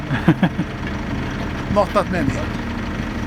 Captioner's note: laughing